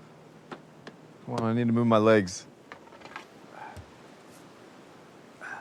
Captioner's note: groans